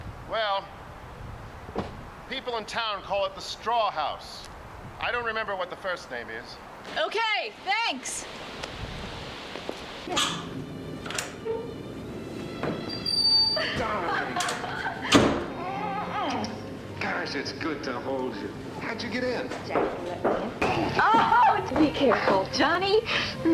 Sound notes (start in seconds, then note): 10.1 gentle music; 15.0 door bangs; 16.2 lips smack